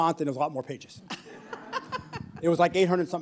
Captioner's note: laughter